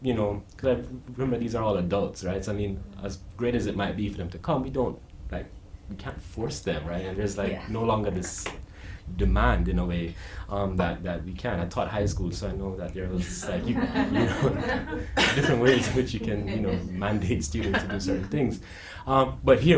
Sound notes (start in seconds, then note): 13.3 audience laughing; 13.4 laughing